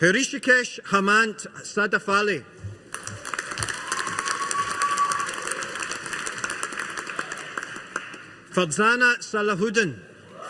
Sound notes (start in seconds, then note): 2.9 audience applauding